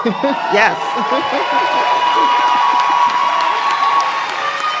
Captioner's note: cheering; applause